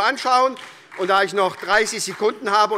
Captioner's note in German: Vereinzelter Beifall SPD